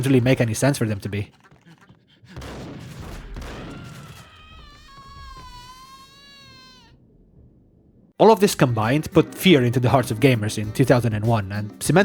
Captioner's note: Crackhead: “AAah!”